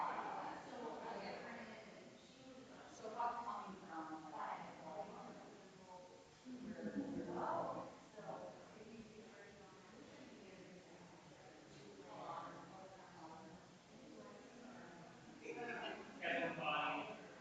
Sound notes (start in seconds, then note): 12.2 people chattering distantly continues